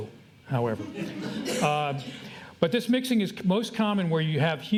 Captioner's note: audience laughter